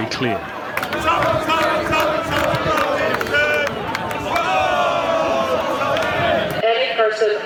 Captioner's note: shouting